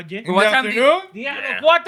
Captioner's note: speaking Spanish